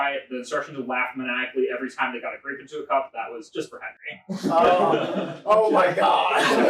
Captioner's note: audience laughter